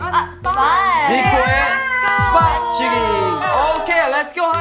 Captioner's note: heart thumping